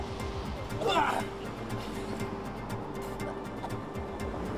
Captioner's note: vomiting